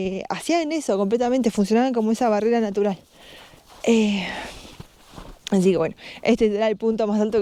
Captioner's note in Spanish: resoplido